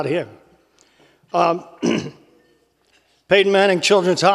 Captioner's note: cough